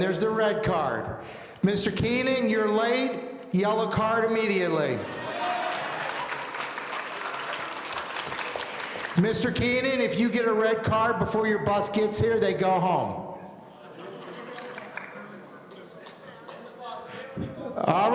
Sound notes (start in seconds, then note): 5.1 audience applauding